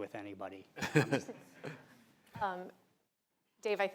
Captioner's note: laughter